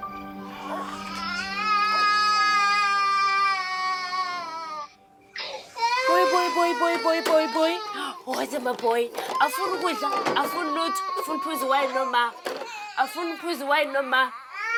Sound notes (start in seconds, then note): 0.4 baby crying